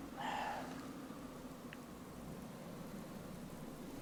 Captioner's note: Sam sighs